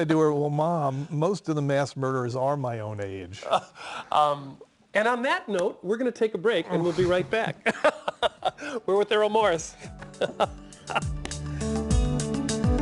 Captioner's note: laughter